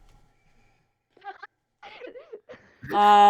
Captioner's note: laughing